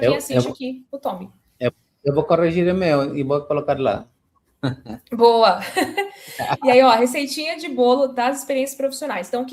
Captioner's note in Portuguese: risadas